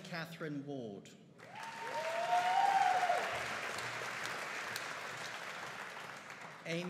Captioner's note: audience cheering and applauding